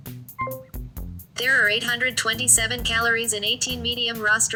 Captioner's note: voiceover